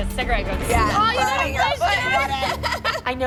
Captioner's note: moms laughing